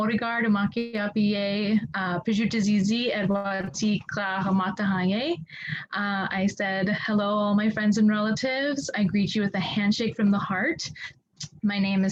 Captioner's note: introducing herself in the Dakota language